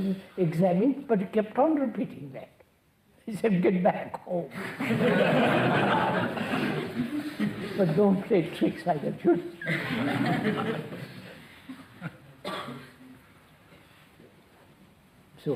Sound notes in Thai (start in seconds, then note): 7.2 หัวเราะ